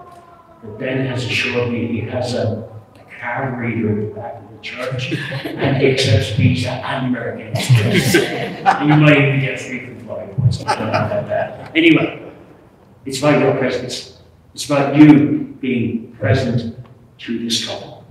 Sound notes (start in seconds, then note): 0.0 siren fading out; 7.5 laughter